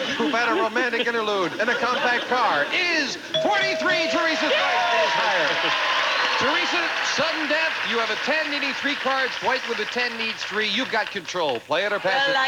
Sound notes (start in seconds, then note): 4.2 audience applauding